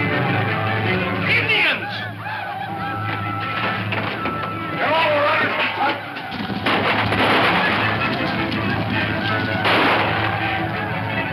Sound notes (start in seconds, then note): 4.8 guns firing; 8.4 people screaming